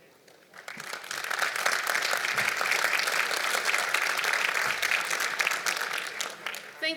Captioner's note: applause